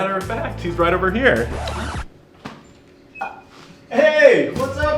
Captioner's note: record scratches